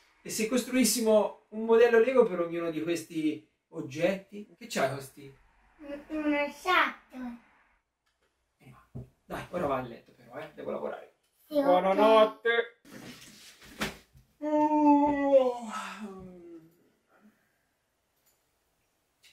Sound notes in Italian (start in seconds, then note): 14.4 sbadiglio